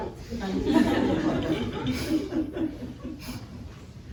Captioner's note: laughter